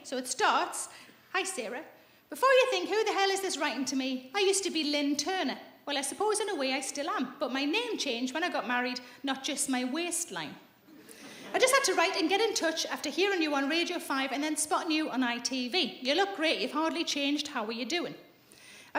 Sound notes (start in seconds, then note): none